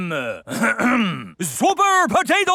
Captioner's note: clears throat